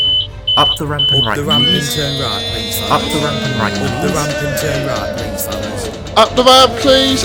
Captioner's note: door chimes; fans wheying and drums